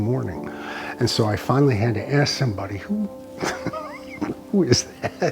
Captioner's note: laughs